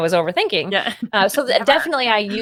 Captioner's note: laughs